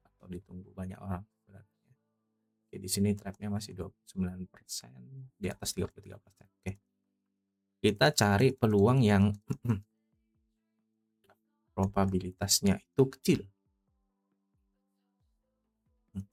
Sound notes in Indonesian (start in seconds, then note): 9.5 berdehem